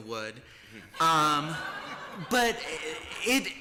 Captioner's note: laughter